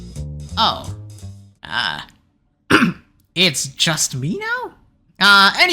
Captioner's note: cough